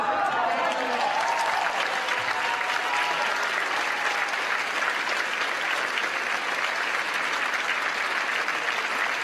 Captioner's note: cheers & applause